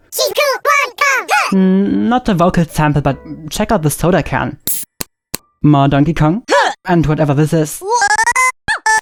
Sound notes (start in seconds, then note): 4.6 can pops; 7.8 high-pitched voice